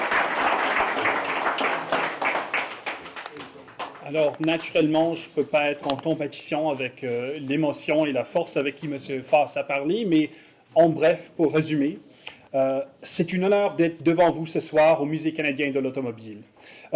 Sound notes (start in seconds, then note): 4.3 in French